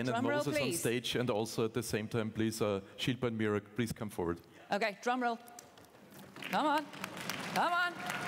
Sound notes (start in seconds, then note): 4.4 applause